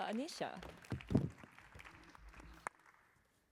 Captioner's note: applause